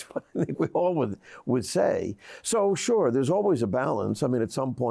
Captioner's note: laughs